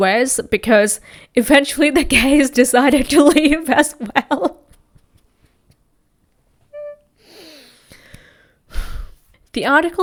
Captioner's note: sighs; laughs